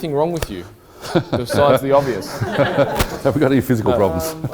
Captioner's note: laughing